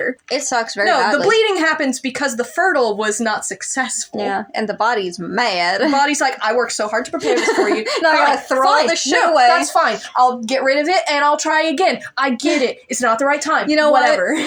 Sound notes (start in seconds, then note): 7.0 laugh; 12.4 chuckle